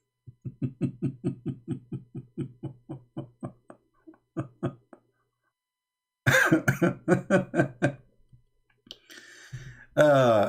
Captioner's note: Ketawa